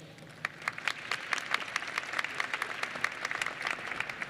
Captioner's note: applause